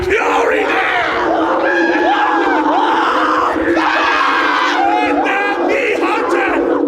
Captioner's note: screaming